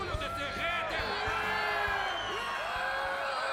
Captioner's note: all cheering